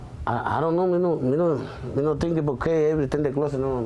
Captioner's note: speaking spanish